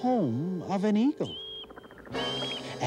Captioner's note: screeching